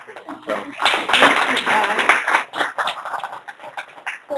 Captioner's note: applause